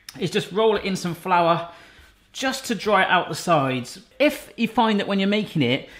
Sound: none

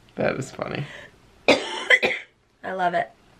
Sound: coughing

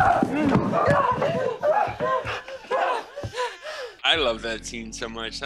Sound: panting

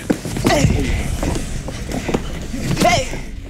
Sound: grunting

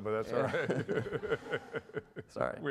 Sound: laughs

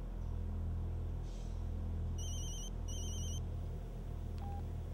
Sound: phone rings

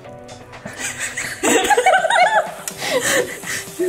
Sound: laughs

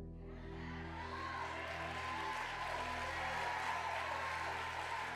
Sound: congregation cheering

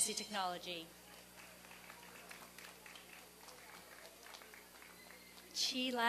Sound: applause and cheering

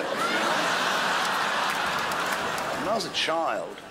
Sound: crowd laughs

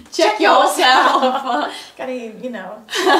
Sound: both laugh

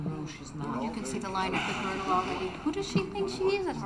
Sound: Jake sighs

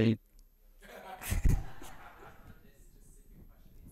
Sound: laughter

